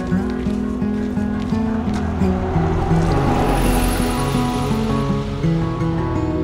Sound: sound of guided bus passing

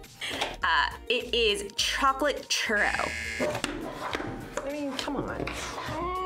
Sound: buzzer rings

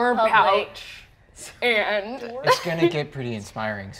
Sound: laughs

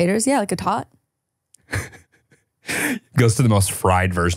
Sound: laughing

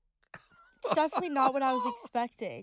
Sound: José laughing

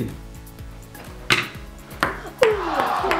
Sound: ball clacks; disappointed crowd

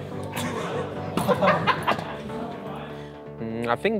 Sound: laughing

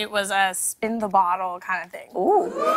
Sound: audience oohs

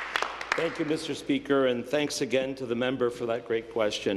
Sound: applause

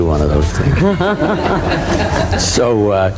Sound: all laughing

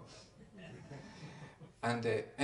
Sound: laughter

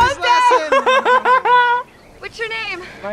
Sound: laughs

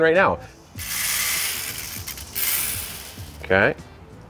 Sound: grains clinking

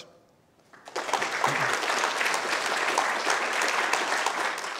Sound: applause

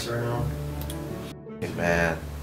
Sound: mouse clicks

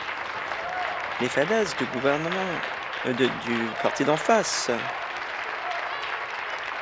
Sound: applause

